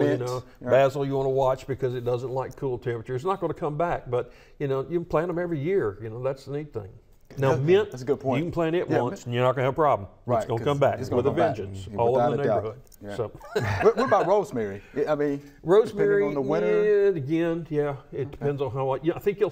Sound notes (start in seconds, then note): 13.4 laughs